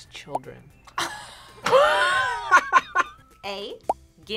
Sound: both laugh

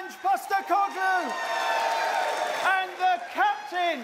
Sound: cheers and applause

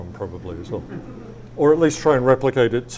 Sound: audience laughs

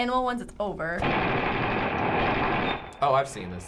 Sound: gunfire

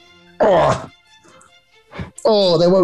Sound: grunts

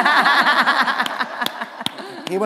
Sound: laughter

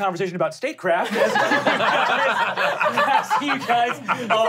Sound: laughing

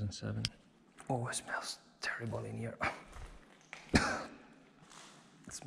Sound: coughs

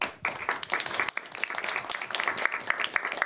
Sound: applause

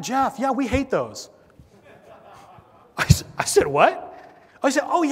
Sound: laugh

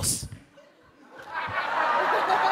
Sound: laughter

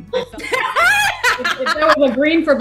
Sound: laughing

